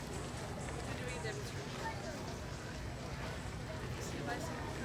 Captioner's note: indistinct chattering from the crowd